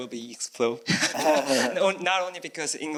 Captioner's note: chuckles